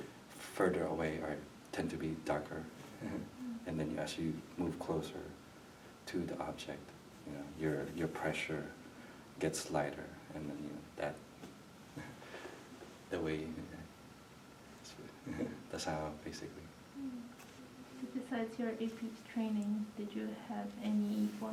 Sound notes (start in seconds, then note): 3.0 laughs; 15.2 laughs